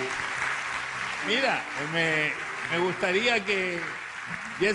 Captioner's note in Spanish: aplausos